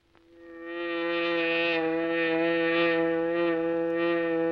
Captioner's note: hornet buzzing